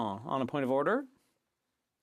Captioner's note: speaking French